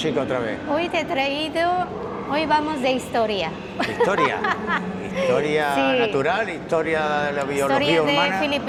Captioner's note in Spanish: risas